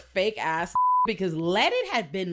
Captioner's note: beep